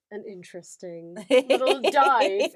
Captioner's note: laughs